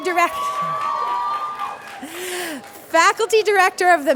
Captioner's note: cheering